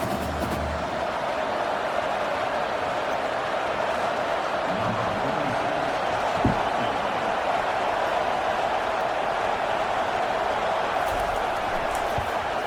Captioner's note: crowd Noises